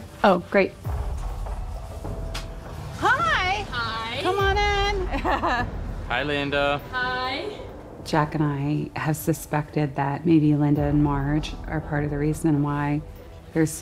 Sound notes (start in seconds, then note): 5.0 laughs